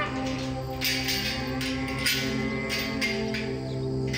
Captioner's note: cattle chattering; chain rattling